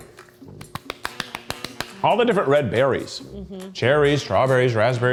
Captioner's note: clapping